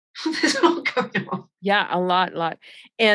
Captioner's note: chuckling